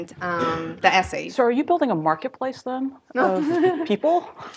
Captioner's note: laugh